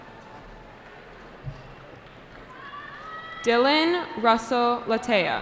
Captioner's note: cheering